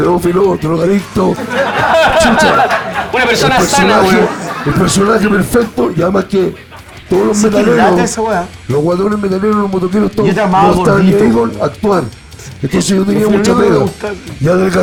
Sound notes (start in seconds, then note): 1.1 laughs